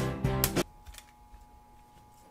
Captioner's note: snap